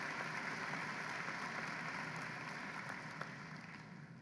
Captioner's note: applause